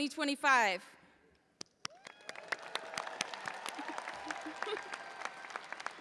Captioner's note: audience applauding and cheering